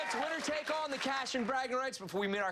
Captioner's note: cheers and applause